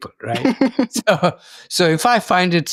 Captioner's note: laughs